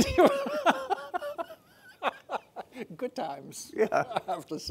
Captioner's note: laughing